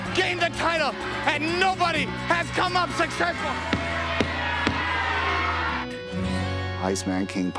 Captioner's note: palms thudding